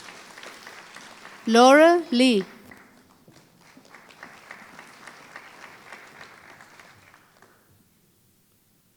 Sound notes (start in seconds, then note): 4.8 applause